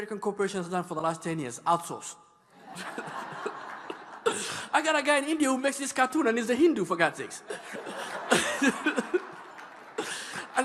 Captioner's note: laughing